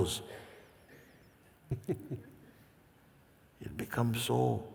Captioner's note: questioner laughs